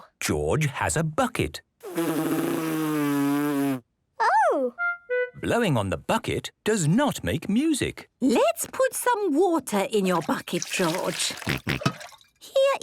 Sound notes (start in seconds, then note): 1.8 blows